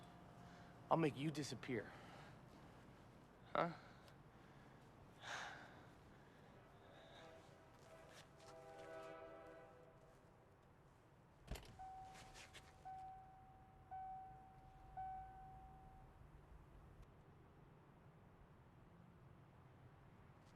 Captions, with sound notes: I'LL MAKE YOU DISAPPEAR. HUH? ( train whistle blowing ) ( car door opens, beeps )